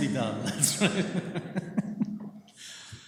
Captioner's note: laughter